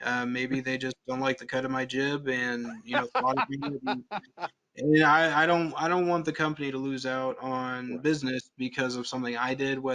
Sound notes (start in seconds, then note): 2.6 laughs